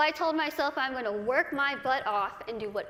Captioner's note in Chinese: none